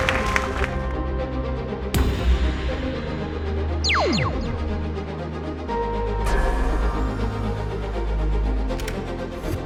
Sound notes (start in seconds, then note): 0.1 intense music; 3.8 lasers whooshing